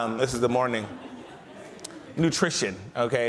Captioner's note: audience laughs